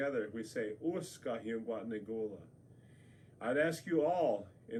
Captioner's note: speaks native language